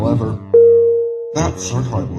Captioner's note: ping